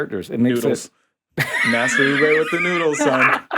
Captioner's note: laughing